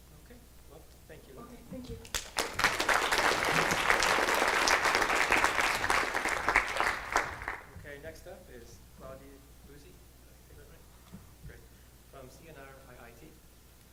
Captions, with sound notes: - Okay, well thank you. - Okay, thank you. (clapping) - Next up is Claudia Buzzi. Is that right, great. From CNR-IIT